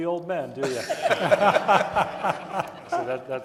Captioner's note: audience laughing